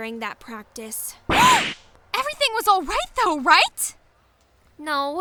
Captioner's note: gasp!